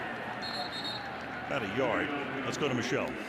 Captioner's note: whistle